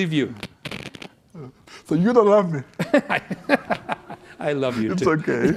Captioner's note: laughs